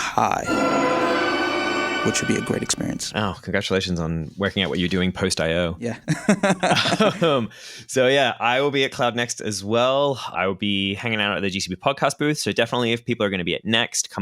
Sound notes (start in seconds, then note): 0.3 dramatic music; 6.0 laughter